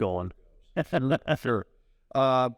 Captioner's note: laughs